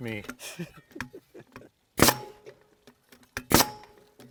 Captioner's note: laughing